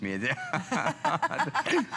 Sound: laughter

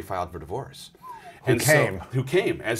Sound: whistles

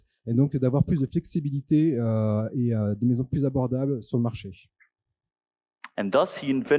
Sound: translating into french

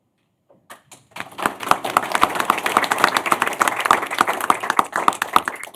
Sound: applause

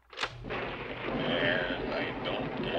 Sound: tape recorder clicks; thunder rumbles

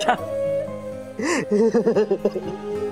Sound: wailing

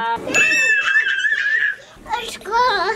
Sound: squealing

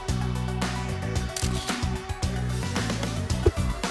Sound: funky music; camera click; funky music

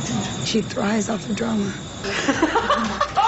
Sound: giggles

